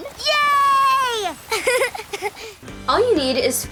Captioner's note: laughs